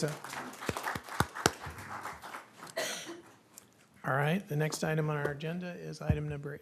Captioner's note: applause